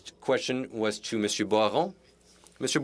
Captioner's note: speaking French